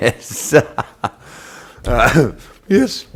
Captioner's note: laughs